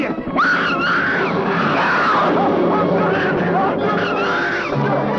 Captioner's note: scream